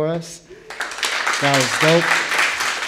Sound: audience applauding

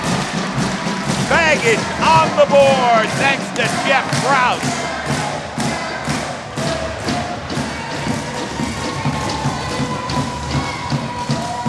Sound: crowd cheering in the distance

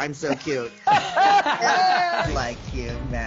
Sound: laughs

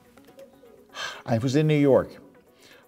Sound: sighs

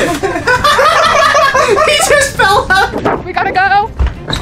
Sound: laughs

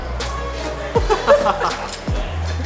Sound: laughs

